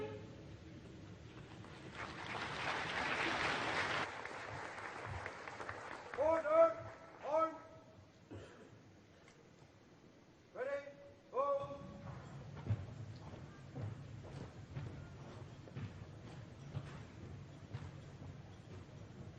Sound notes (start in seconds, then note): 1.6 applause